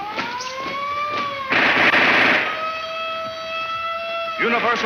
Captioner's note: siren blares; gun fires